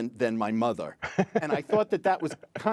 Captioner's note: laughter